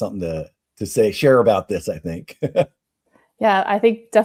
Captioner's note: laughs